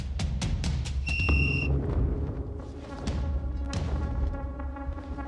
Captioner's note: whistle blows